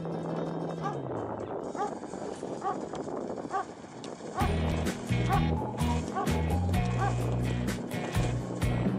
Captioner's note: dog barking